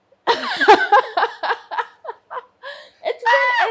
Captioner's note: laughs